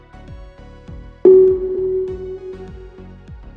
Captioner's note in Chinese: 電子音